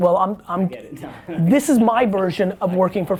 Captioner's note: laughs